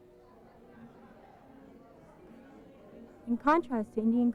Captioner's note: people's voices